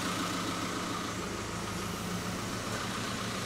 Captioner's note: engine idling